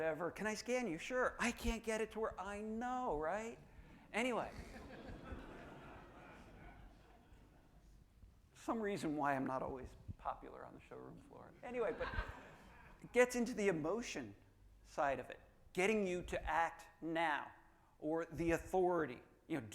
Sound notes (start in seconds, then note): 4.4 audience laughing